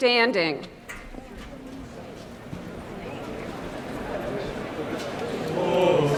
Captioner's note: indistinct background chatter